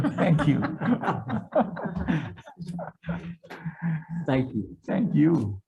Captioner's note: group laughing